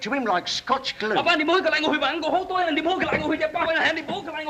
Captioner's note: protesting in Chinese